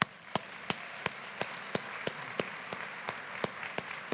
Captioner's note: applause